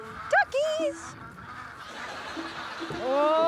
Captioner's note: ducks quacking